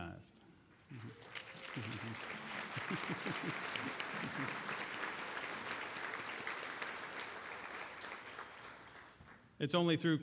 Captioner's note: applause